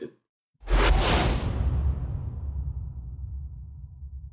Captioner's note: whooshing sound